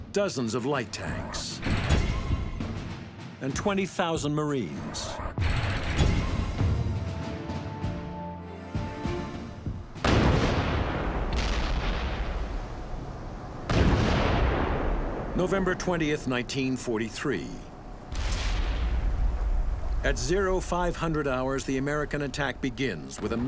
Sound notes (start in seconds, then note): 5.3 dramatic ominous instrumental music; 10.0 cannon shots exploding